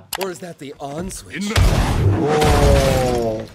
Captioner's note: crash